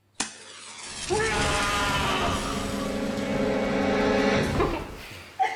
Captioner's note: man screaming